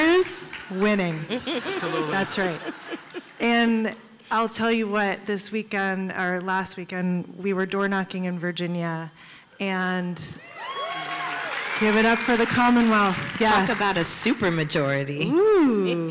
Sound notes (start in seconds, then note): 1.2 laughter; 10.6 applause